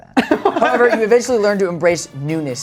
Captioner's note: all laughing